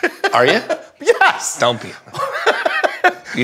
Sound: laughs

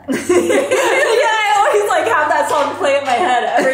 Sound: laughs

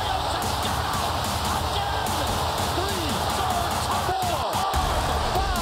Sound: cheering

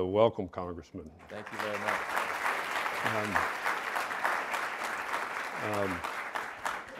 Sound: audience applauding

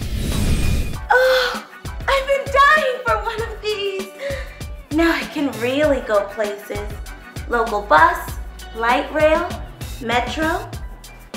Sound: sigh

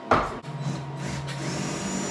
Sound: drill noises

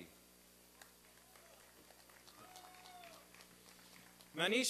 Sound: applause and cheering

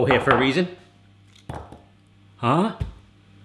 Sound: thud

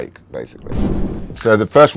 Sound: graphic whooshes

